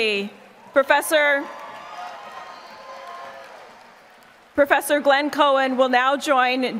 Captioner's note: applause